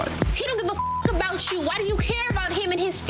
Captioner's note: beep